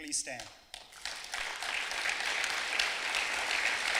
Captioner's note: clapping